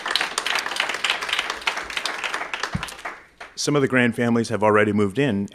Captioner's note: applause